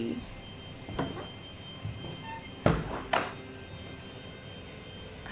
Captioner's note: wood creaks